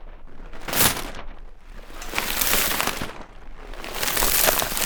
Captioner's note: ice crunching